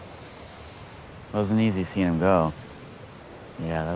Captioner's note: inhales